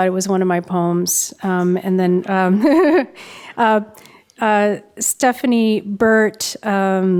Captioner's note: laughs